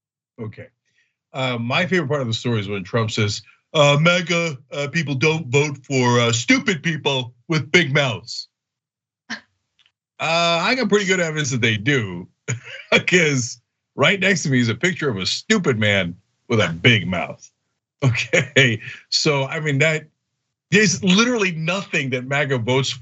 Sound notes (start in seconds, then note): 12.5 laugh; 18.0 laugh